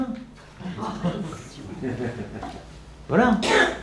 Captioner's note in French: rires